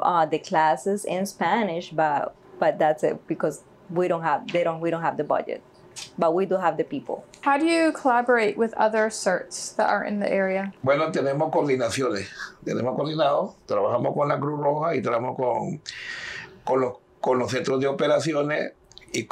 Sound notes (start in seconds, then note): 11.0 speaking in Spanish